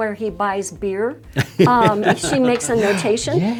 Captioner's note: laughter